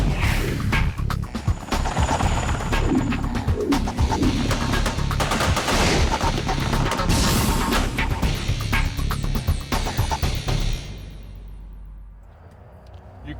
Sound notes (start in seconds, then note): 4.2 gunfire